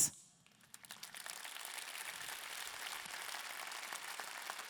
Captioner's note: audience clapping